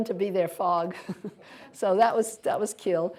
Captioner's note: laughter